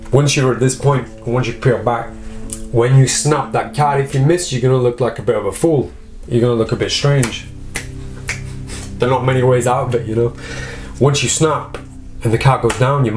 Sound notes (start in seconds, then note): 7.7 clicks fingers